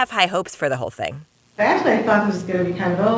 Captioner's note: soundbite of archived recording